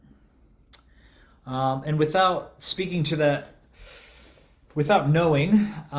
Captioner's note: inhales gustily